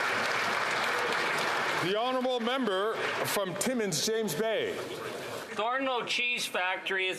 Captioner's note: applause